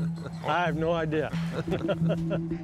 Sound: laughs

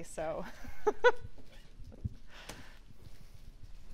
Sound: laughing

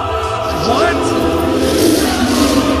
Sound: roars; roaarrrsss

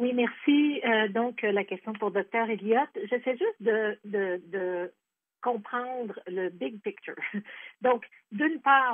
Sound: speaking French

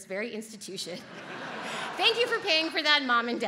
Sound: audience laughs

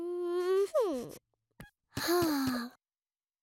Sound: sighs

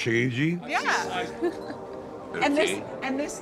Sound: Sistine giggling

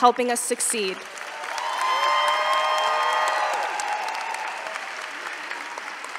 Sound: cheering & applause

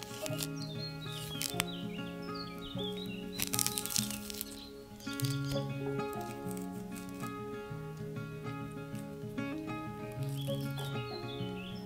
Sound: peeling

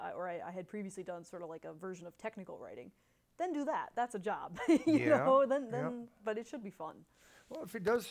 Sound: laughs

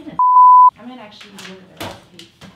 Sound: beep

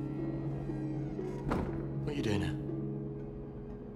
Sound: door closes

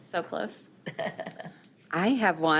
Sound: laughing

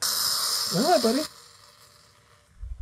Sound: pot hisses

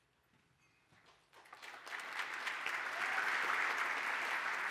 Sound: applause

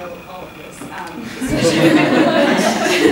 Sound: laughter

